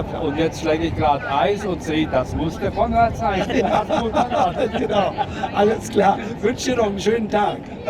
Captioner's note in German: gelächter